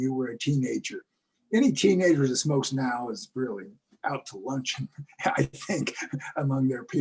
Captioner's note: laugh